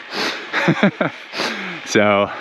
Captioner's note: man laughs